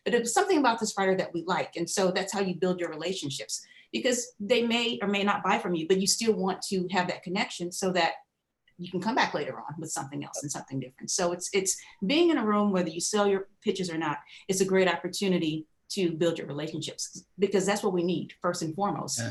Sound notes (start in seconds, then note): none